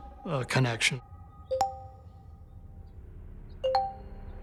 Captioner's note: suspenseful music; texts chiming